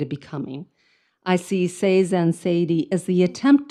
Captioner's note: speaks in foreign language